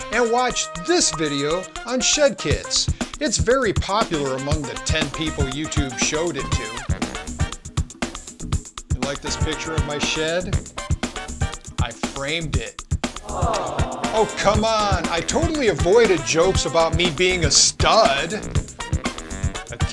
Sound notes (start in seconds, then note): 13.2 crowd groans